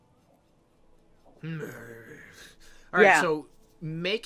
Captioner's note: Ettin grumbling